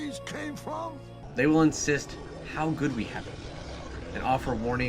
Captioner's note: voiceover